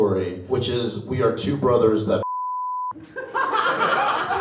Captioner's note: beep; audience laughs